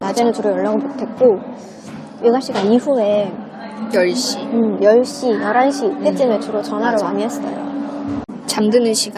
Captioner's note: line voice talk